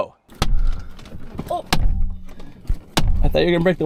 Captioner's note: knife banging window